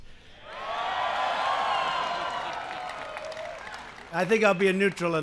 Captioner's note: applause